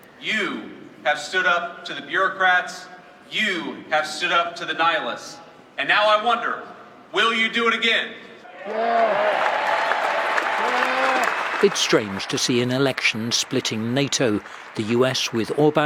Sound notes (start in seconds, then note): 8.5 crowd cheering